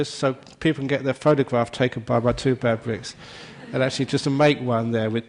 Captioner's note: laughter